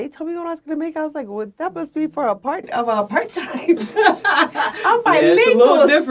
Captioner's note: laughs